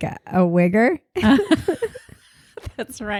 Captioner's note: both laughing